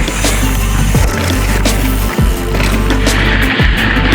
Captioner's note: reeling sound